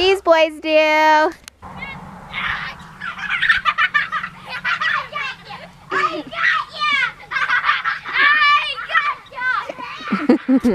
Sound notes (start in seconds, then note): 2.3 children laugh; 6.9 chuckles